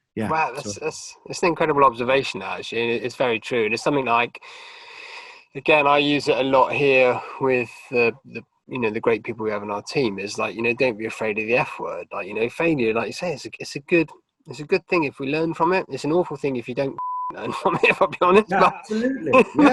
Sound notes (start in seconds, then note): 16.9 beeping; 17.4 laughing